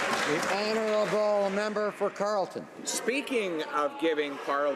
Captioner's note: some Applause